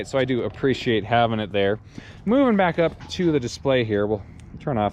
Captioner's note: none